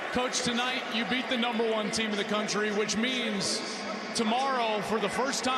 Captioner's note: cheers and applause